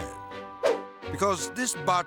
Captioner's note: air swoosh